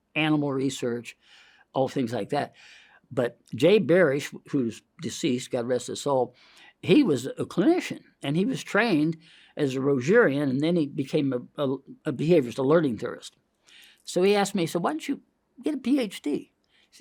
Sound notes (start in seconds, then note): none